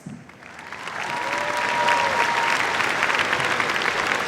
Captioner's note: cheers, applause